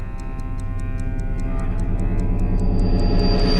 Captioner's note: none